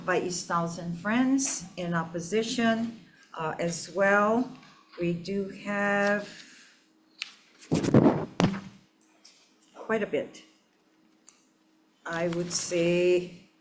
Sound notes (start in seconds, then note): none